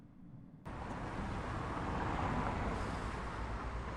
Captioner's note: traffic noise